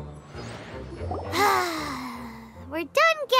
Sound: sigh

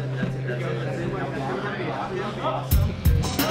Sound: chattering; intense instrumental music

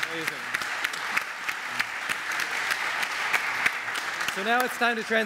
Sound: audience applaud

